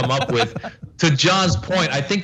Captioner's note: laugh